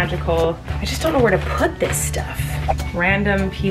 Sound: whooshing

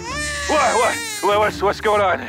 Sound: baby crying

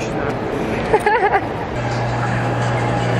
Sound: laughter; theme music

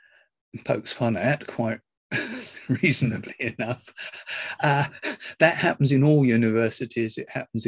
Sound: laughs

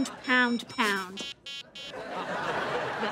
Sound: beeping

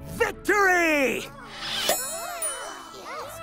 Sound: crowd murmuring; cheering

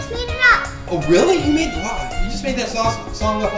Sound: voiceover

